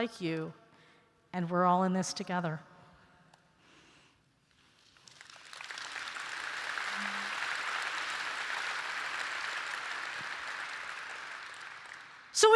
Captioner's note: applause